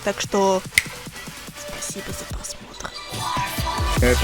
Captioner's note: snap